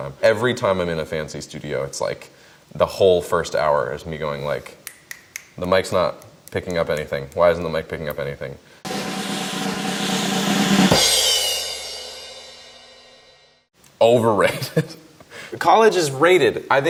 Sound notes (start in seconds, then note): 4.8 snaps fingers; 8.8 drum roll; 14.9 laughs